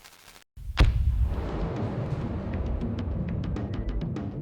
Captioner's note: loud bang; tense music